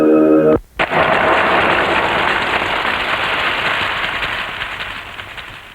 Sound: cracking sound

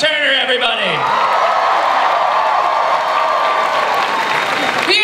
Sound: cheering, applause

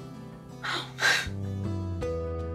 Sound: crying

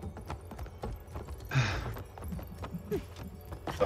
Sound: sigh

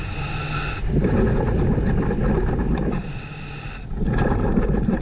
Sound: continuous heavy breathing through mask; continuous water bubbling

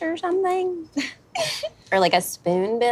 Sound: laughs

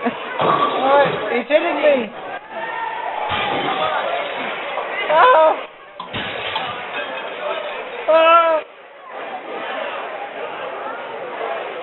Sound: yelling

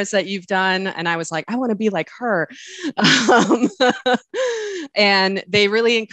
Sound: laughs

